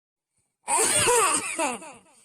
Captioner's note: cough